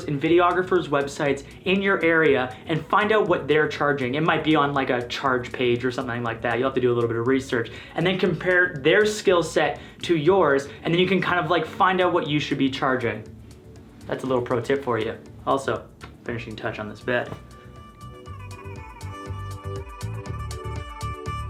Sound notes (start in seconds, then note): 15.9 lips smack; 18.6 upbeat music